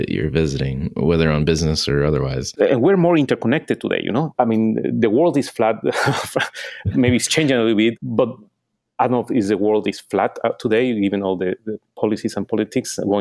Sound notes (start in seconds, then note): 5.9 laughs